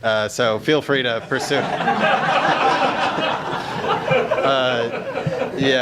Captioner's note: audience laughs